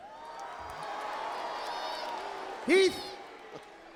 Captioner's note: crowd cheering